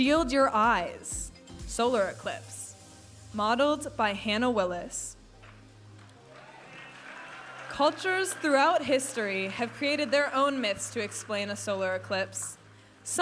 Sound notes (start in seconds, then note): 6.0 audience applauding and cheering